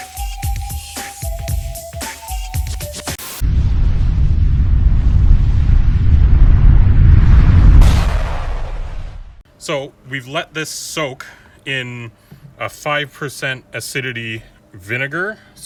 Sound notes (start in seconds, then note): 3.1 TV hissing